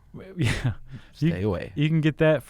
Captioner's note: laughs